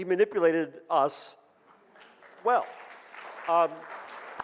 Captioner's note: audience claps